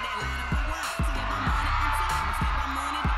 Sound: applause

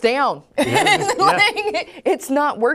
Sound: laughs

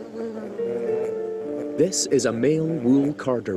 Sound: bees buzzing

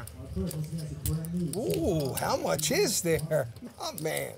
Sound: laughs

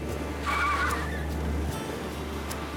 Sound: tires squealing

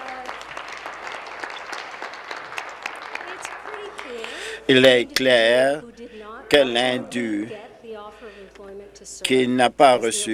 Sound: some Applause

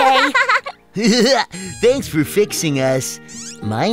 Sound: Blo giggles

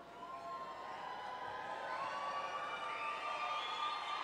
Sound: audience cheering

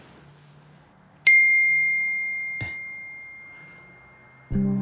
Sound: message Beeps

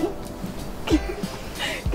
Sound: giggles

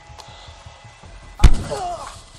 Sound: smack

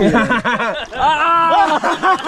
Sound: laughing

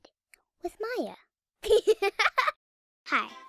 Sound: laughs

